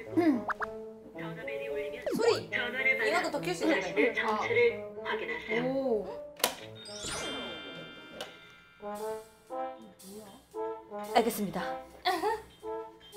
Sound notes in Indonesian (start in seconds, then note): 6.7 Telepon terakhir berdering